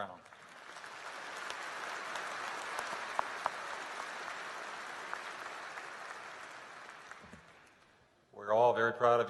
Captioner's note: applause